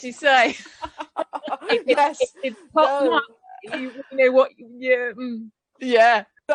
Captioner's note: laughter